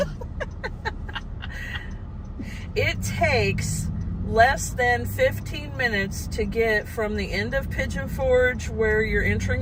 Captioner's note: giggling